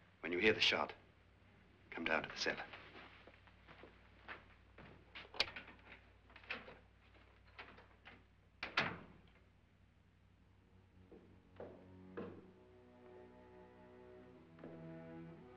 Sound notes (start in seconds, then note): 6.3 door opens; 8.6 door closes; 12.8 ominous music